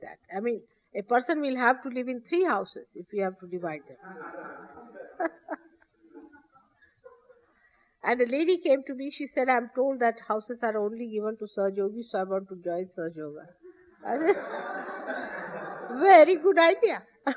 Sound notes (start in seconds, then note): 6.2 laughter